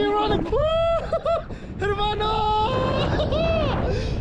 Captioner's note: laughs